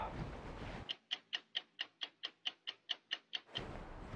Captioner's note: sigh; clock ticking